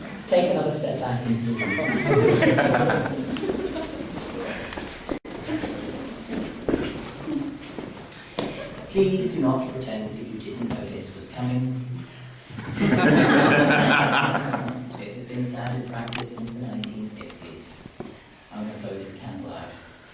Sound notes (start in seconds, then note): 1.5 laughing; 3.8 footsteps; 12.6 laughter